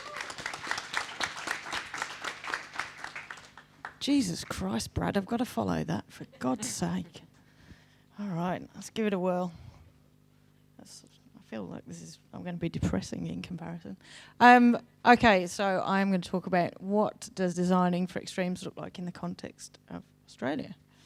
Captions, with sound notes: - Thanks Naomi. (audience clapping) Jesus Christ, Brad, I've gotta follow that for God's sake. All right, let's give it a whirl, I feel like this is, I'm gonna be depressing in comparison. Okay, so I'm gonna talk about what does 'designing for extremes' look like in the context of Australia?